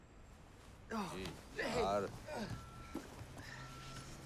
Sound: speaking in Punjabi; trucks driving around

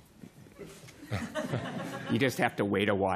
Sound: laughter

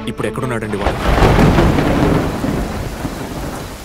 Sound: thunder rumbling

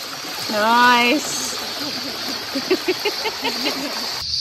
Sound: chuckle

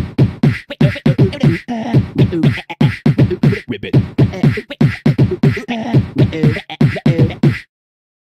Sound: beatboxing

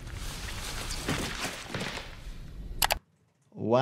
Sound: body thuds

